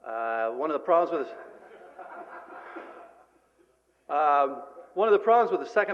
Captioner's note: laughter